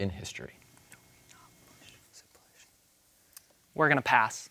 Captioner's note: team whispering